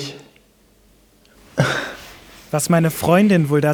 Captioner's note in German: Lachen